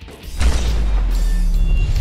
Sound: gunshot

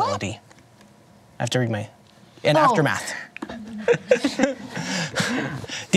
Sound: laughs

